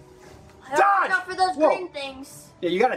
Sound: man screams

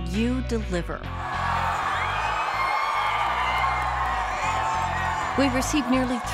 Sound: cheering

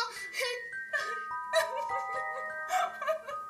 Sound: witch mock sobs

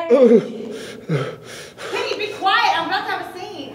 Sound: gasping

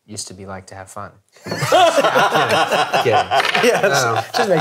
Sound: all laughing

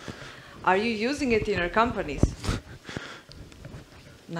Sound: chuckles

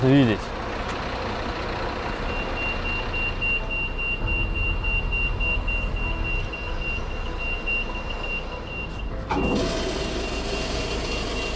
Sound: tow truck sounds

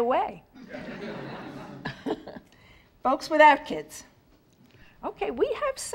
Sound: laugh

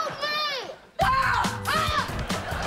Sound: screaming

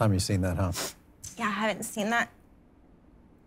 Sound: sniffs

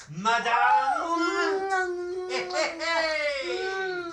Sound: Rodney laughs; Franky squeals with delight

